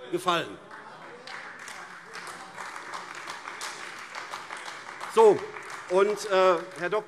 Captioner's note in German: Beifall AfD - Zuruf BÜNDNIS 90/DIE GRÜNEN: Wer denn?